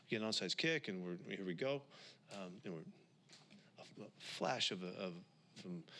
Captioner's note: takes a breath